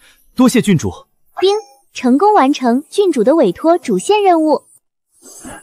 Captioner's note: ding!